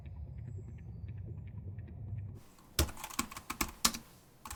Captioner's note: keys clicking